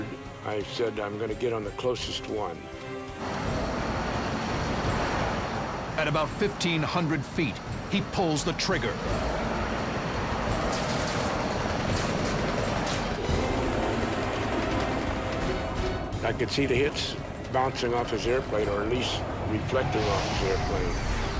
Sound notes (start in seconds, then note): 3.0 plane roaring; 12.9 dramatic music plays